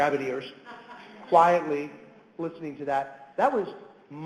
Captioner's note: audience chuckles